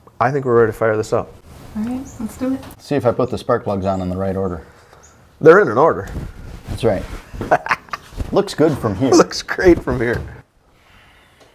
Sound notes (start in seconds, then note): 7.3 laughs